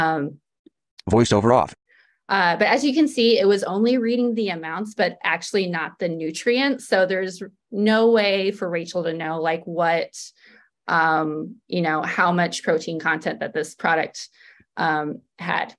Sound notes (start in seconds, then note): 1.0 voiceover